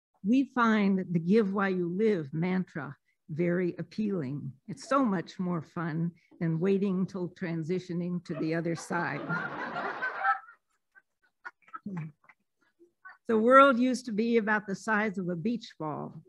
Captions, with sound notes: We find that the give while you live mantra, very appealing, it's so much more fun than waiting till transitioning to the other side. [laughing] So world used to be about the size of a beach ball,